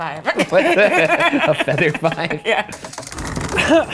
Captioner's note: laughing